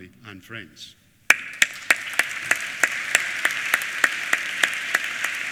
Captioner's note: applause